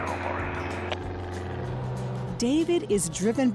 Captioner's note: radio 'cli-clicks'